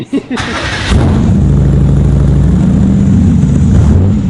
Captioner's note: car engine roars